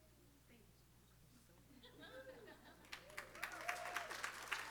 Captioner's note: applause